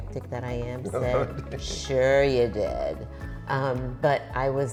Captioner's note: laughing